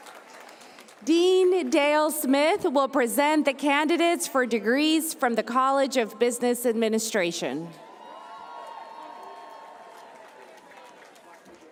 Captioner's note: cheers and applause